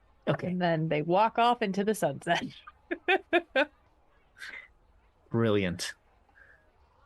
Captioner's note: laughs